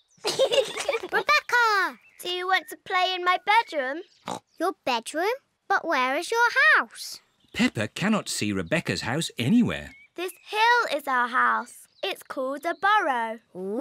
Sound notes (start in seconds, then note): 0.2 peppa and george giggling; 4.2 snorts